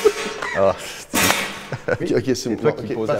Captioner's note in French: fracas